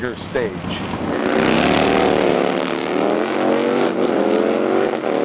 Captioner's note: motorcycle engines revving